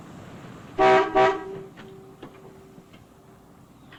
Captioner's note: car honking